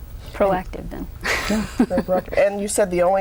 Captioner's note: laughs